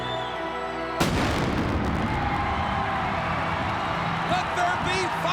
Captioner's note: thunder cracking